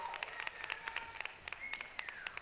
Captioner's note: applause